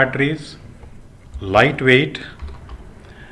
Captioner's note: cell phones